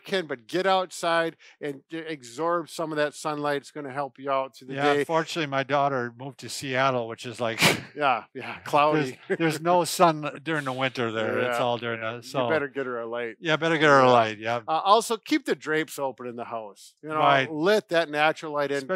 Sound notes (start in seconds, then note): 8.4 laughs; 8.9 chuckles